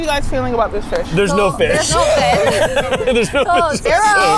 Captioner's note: laughs